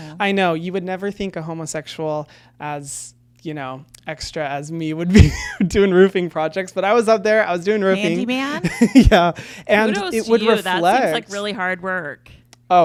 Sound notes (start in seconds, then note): 5.4 laughs